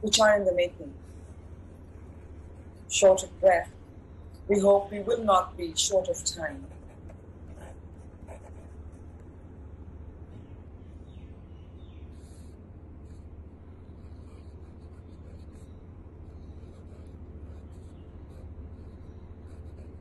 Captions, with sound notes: Short of breath, we hope we will not be short of time. (scribbling)